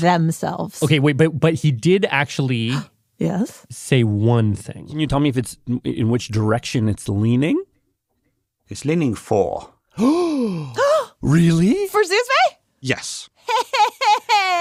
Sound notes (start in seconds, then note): 3.5 gasps; 9.9 gasps; 13.4 laughs